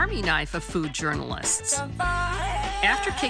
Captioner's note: men cheer